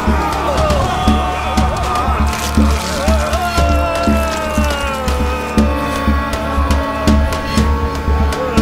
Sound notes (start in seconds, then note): 2.2 blood gushing; 2.2 flesh tearing; 3.0 gray haired man groaning